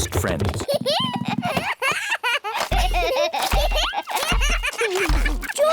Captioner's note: both giggling